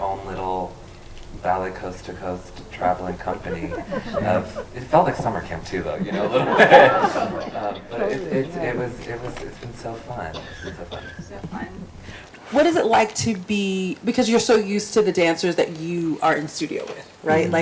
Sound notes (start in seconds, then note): 7.5 group laughs